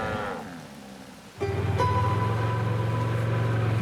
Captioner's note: atv engine putters